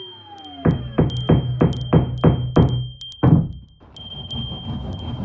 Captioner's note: bells jingle in the distance; hammering and sawing in the distance